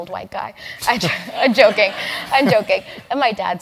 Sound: laugh

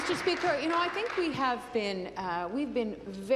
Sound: applause

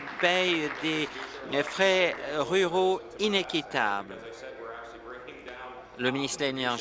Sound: applause

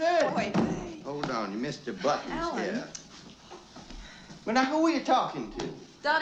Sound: clicks Tongue

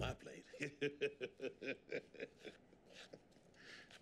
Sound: laughing

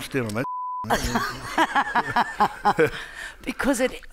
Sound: Margaret laughing

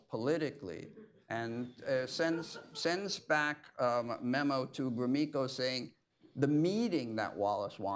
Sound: laughter

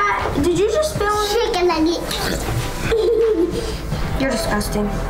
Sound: laughs

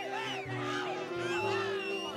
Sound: players whistling and cheering

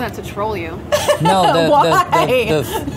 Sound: laughing

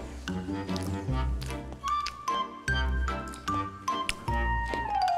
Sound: nom~ Nom~ Nom~

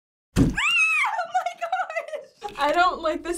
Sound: screams

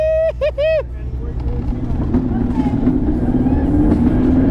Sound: excited screaming

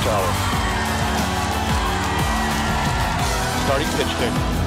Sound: cheering

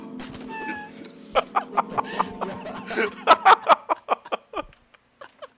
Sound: laughs

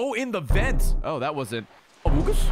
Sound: Among Us noise

